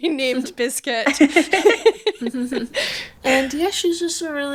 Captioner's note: laughing